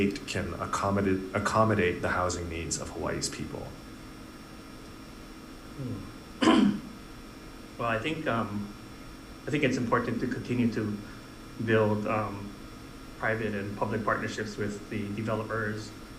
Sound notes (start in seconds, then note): 6.4 clears throat